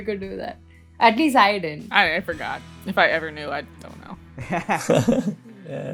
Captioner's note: laughter